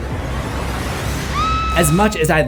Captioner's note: screams